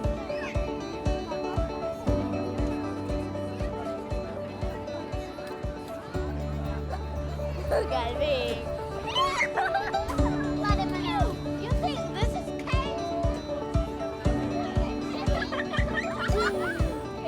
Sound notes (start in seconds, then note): 7.6 laughing and chatting